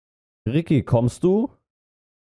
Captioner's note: calling